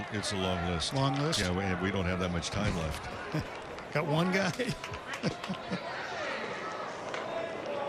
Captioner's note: laughter